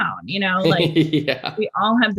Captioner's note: Andrew laughs